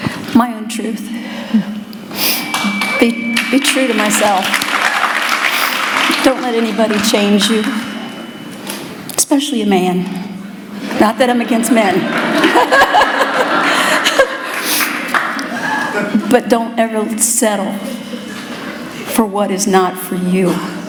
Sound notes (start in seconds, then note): 3.2 applause; 11.8 laughter